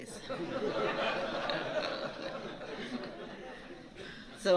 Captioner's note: laughter